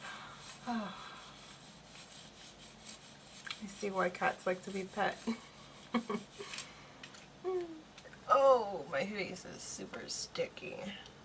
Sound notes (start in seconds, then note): 0.6 sigh of relief; 1.0 scratches; 5.3 laughs